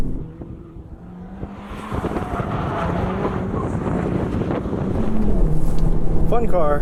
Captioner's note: tires screech, engine revs